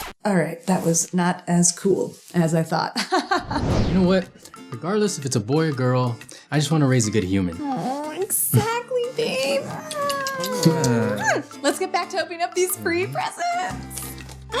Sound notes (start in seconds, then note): 3.3 laughs; 9.7 makes kissing noise